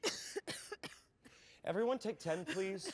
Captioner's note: coughing